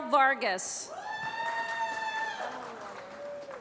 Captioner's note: applause